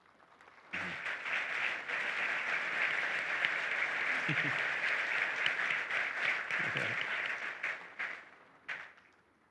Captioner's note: applause